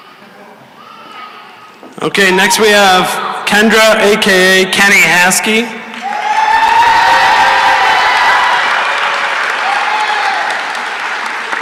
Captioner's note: cheering and applause